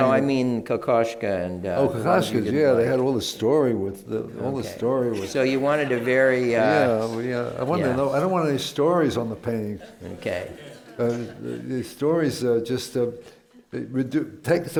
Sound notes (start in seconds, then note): 5.5 laughter